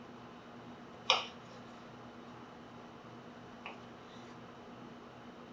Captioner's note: knife clacking